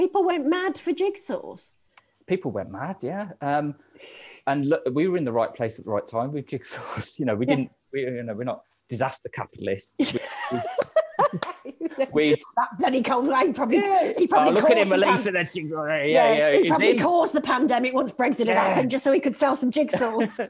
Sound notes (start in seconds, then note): 10.0 laughing